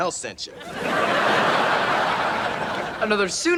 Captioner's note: audience laughs